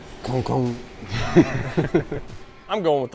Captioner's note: laughs